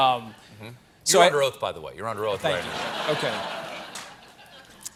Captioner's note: laughter